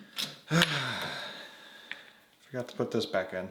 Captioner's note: sighs